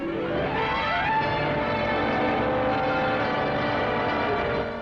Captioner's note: plane engines roaring